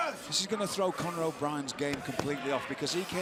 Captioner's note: crowd chatter